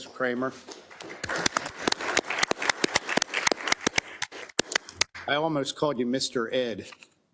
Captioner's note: applause